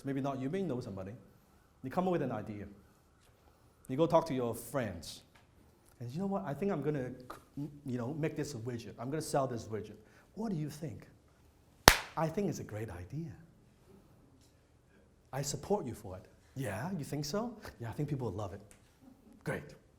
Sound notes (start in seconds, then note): 11.8 loud clap